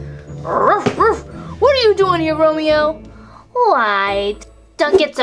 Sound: snickers; barks

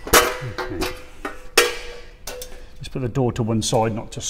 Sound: door clanking

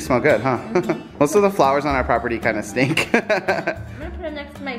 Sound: laughs

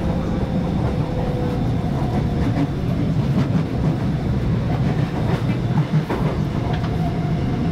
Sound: train clattering / train crossing track

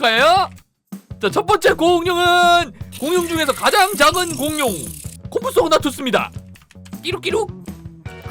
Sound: squeak, squeak!

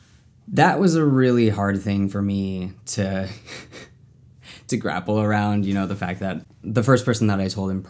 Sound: laughs

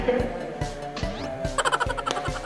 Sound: he's laughing too hard

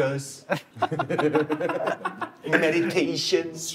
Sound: Justin is laughing hard

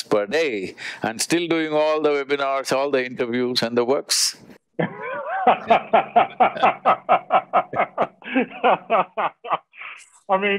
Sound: Vusi laughs

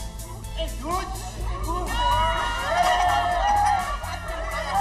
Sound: all cheering

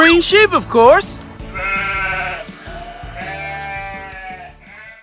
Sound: bleating

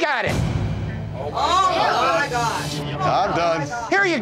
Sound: all shouting

